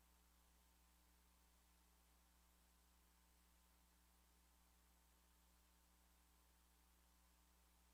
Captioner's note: non-english